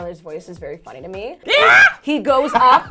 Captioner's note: yelling